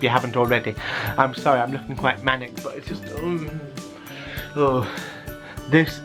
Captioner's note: makes excited noises